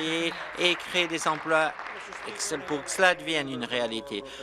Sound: applause

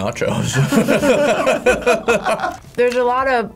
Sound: laugh

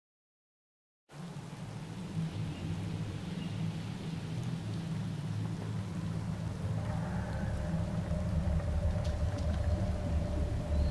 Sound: sound of nature and wildlife

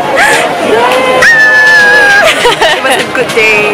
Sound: fangirling noises

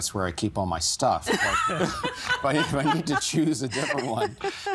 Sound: laughing

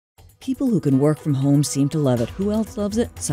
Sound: voiceover

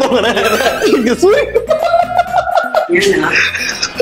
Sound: laughs

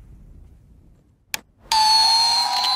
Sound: click; rocket noises

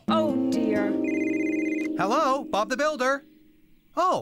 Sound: cell Phone Ringing

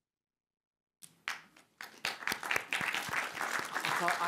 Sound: applause

